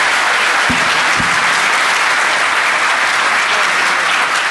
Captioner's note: applause